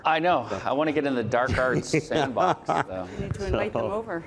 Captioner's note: laughing